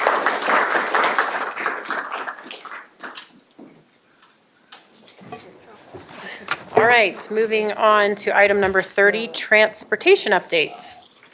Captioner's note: applause